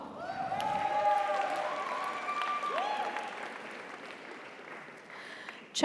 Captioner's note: audience cheers; audience applauds